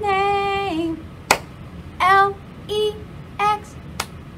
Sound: clap; clap

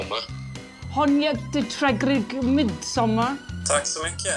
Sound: speaking Swedish

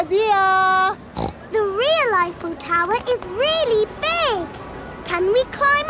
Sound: snorts

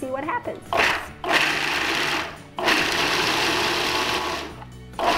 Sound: food processor whirring

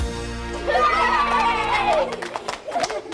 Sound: cheering

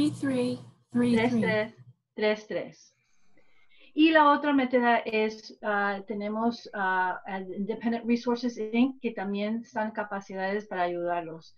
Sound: speaking spanish

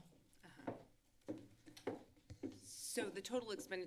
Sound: footsteps

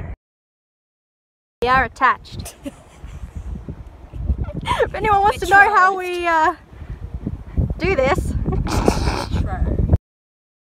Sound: laughs

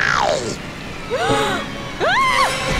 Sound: gasping

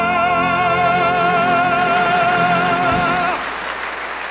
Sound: audience applauding

